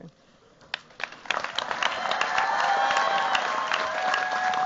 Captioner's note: cheers, applause